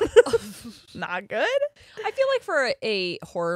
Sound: both laughing

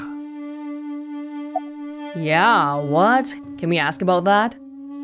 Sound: none

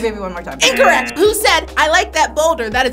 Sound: wrong buzzer rings

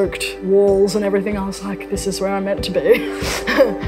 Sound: laughs

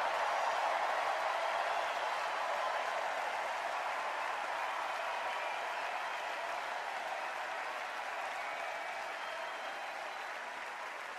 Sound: extended cheers and applause

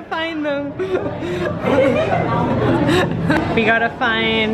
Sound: laughing

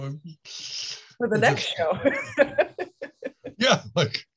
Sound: laughs

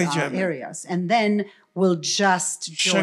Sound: foreign language

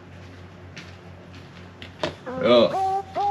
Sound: someone's footsteps

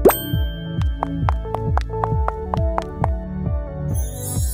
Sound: heels tapping

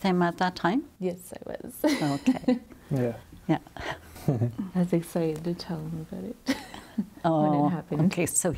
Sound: laughs

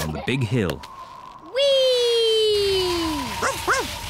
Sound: wind whistling; barks

